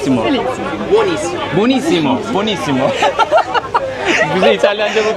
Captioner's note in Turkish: kahkaha